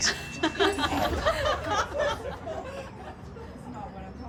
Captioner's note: people laughing